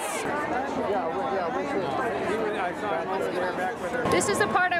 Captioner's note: background chatter